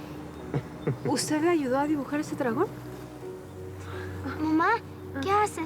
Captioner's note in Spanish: risas